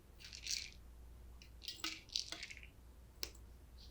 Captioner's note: pills rattling